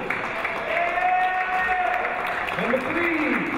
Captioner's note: cheering; clapping